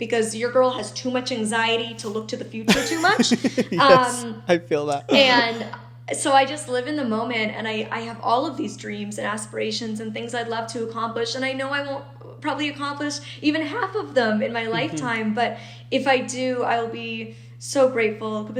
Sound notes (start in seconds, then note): 2.6 laughing